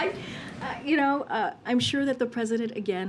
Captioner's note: laughs